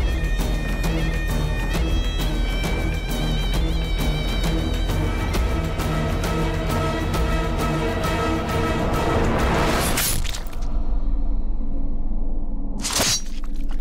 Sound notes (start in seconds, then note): 9.9 blood splash